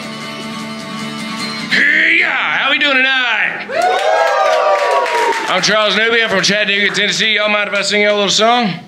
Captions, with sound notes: HEEYUE How we doing tonight? [APPLAUSE] I'm Charles Newby I'm from Chattanooga, Tennessee... Yall mind if I sing ya'll a little song?